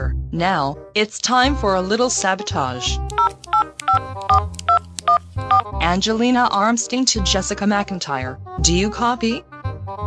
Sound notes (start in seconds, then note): 3.1 cell phone dial